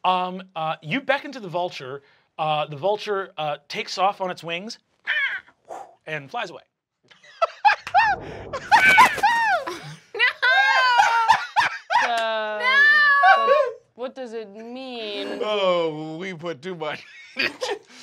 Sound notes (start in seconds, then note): 5.1 squawks; 7.6 laughing; 17.2 chuckles